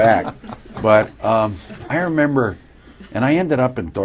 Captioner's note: laughter